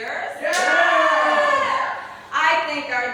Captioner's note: cheers